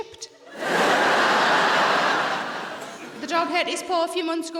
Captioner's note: audience laughing